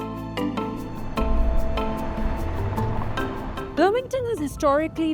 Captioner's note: enigmatic music continues; car droning